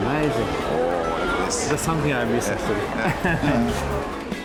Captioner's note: laughs